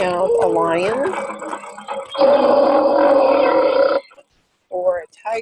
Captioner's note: lion roaring